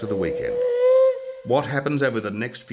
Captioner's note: train whistle